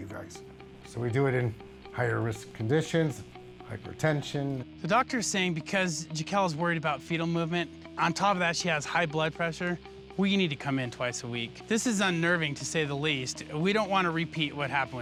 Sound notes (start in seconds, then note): none